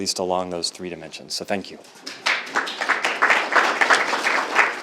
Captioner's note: group clapping